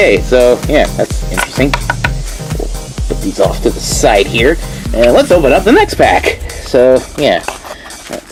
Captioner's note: taps cards